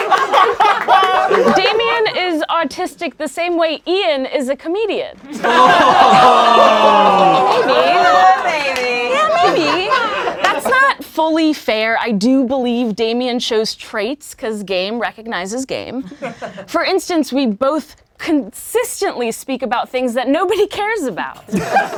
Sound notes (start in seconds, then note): 5.3 laughing; 21.4 laughing